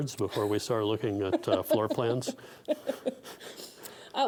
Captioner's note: laughing